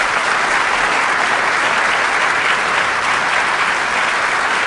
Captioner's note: applause